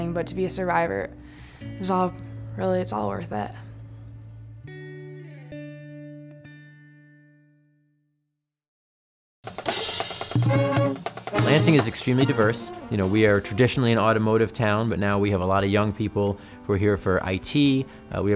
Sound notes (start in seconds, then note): 10.3 horns blowing